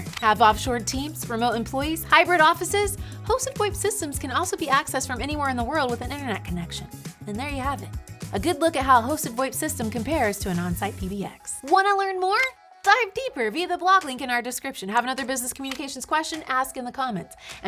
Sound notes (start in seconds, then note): none